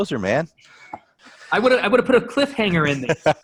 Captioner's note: chuckles